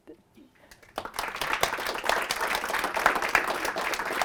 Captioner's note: applause